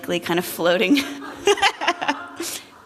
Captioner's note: laughter